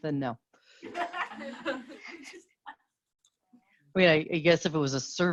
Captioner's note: students laugh